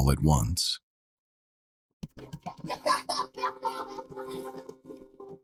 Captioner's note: baby laughing